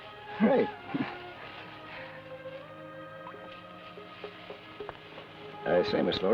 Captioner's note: chuckles